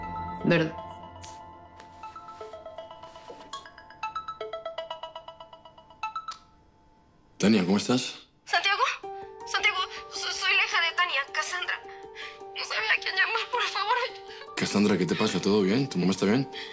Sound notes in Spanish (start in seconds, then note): 4.9 Suena el celular; 8.6 Sollozos